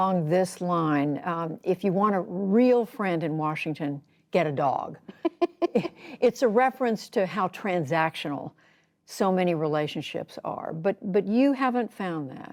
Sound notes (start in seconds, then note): 5.0 laughter